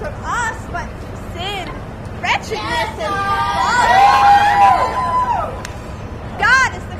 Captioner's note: audience cheers